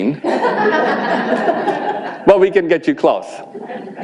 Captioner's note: audience laughing